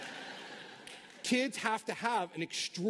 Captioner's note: laughter